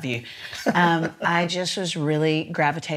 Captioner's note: laughs